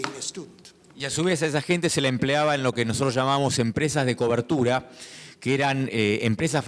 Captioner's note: speaking in foreign language